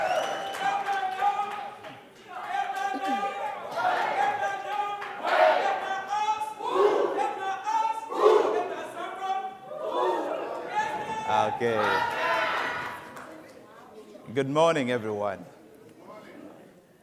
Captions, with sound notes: (whistling) (chanting in foreign language) - Okay. Good morning everyone. - Good morning!